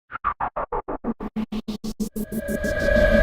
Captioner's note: whooshing